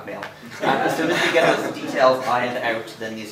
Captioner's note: laughter